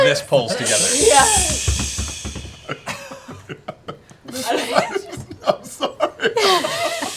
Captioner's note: confused laugh